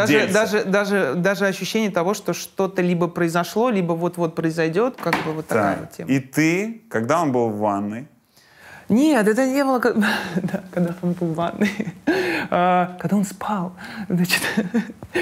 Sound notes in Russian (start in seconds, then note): 9.8 смеётся